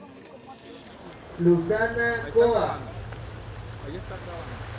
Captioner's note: ferry announcement